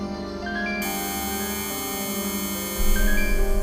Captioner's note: scanner buzzing